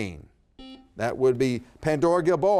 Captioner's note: buzzer beeps